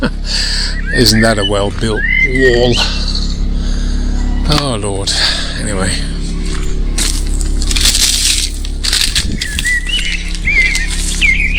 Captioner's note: background sounds and birds singing